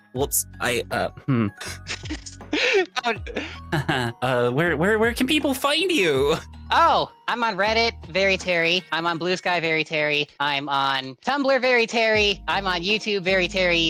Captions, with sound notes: Whoops, I... Hmm. (laughing) Where can people find you? Oh, I'm on Reddit, Very Pteri. I'm on Blue Sky, VeryPteri. I'm on Tumblr, VeryPteri. I'm on YouTube, VeryPteri,